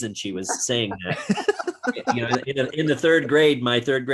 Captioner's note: chuckles